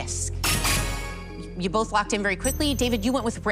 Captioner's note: chime, chime